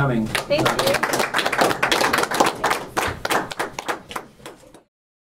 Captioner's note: applause